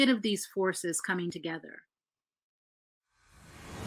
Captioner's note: logo slams